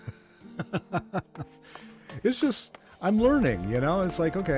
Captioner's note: laughs